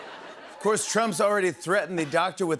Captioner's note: normal voice